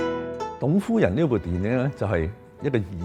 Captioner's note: Cantonese